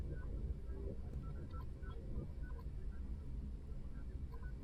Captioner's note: machines beeping